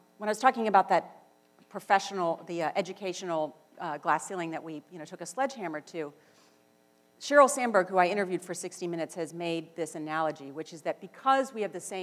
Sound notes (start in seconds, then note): none